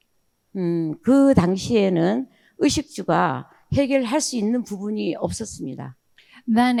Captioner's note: speaking in foreign language